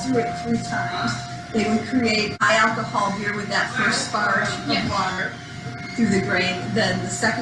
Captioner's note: crowd noise